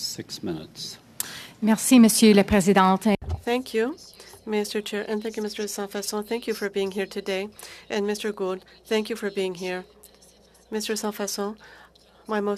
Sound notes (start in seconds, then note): 6.9 speaking French